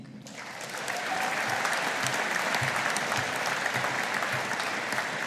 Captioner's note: audience applauding